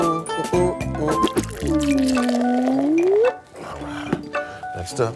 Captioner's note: chef humming; pouring sound